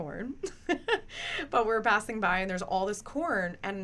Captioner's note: laughs